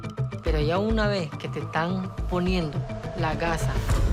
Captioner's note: Roman speaking Spanish